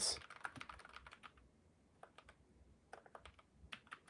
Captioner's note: typing